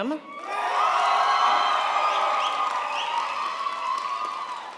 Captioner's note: crowd applauds